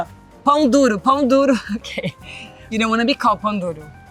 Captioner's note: speaks Portuguese; laughs; speaks Portuguese